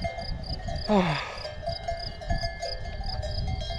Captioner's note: sighs